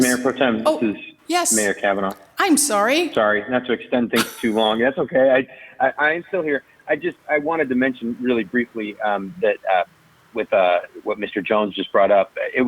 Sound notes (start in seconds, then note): 4.1 laughs